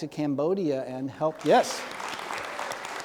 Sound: applause

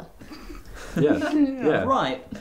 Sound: giggle; snorts

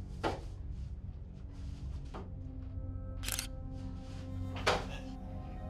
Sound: suspenseful music; camera shutter clicking; suspenseful music

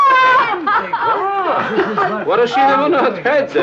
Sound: group chattering; laughing

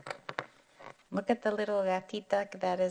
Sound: speaking in foreign language

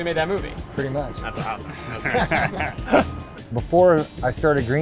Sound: laughs

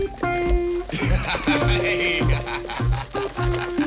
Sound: laughter

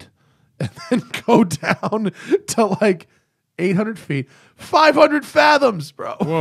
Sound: laughter

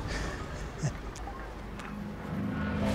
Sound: chuckles

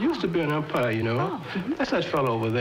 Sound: laughs

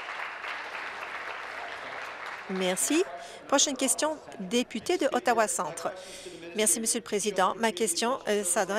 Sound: applause

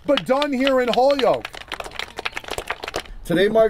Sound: group clapping

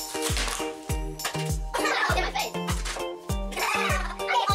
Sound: fast giggling

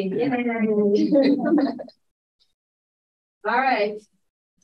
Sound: electronically garbled speaking

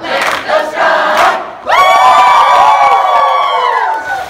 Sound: cheering

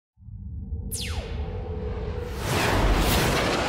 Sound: engine zips

